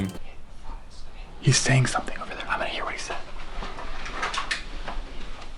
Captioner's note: whispering